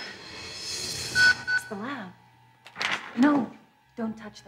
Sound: pager beeps

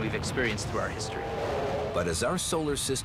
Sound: roaring

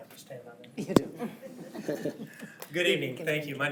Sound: chuckle

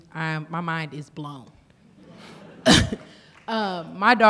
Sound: laughter

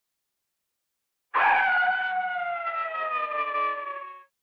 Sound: howl

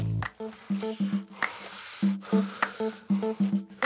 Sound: guys blowing

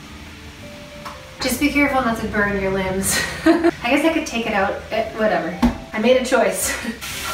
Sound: laughs

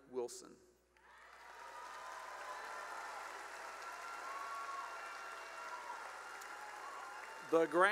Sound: cheering and applause

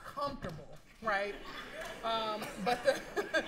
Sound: laughter

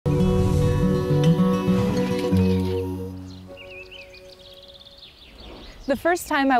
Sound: gentle music; birds chirping

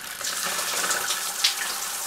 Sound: water splashes

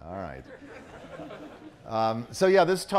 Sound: audience chuckling

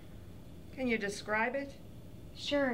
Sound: none

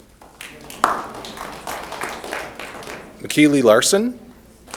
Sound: applause

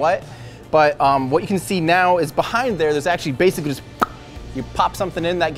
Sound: pop sound

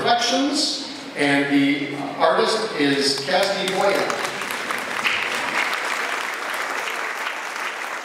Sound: applause

